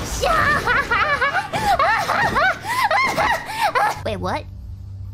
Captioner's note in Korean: 사악한 상어 웃음